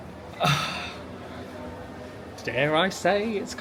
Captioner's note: sighing